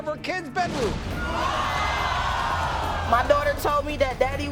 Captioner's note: audience oohs